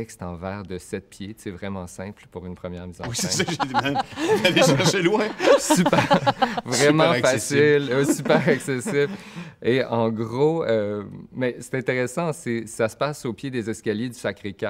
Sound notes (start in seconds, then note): 5.2 laughs